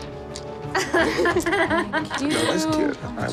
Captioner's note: laughs